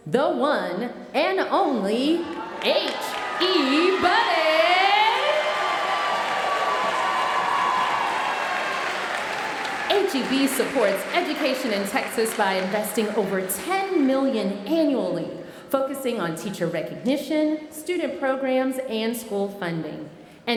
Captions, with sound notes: the one and only, HE Buddy. (audience cheering and applauding) HEB supports education in Texas by investing over 10 million annually, focusing on teacher recognition, student programs, and school funding.